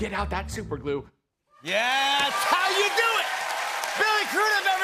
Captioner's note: cheers and applause